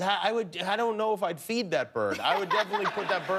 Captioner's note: laughter